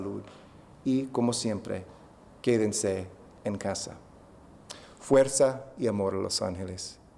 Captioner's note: speaking spanish